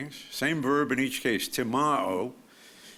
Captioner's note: speaks foreign language